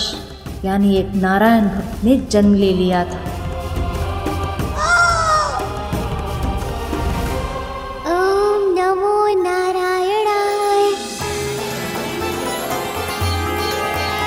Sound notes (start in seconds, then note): 4.7 screams